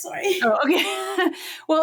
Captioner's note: laughs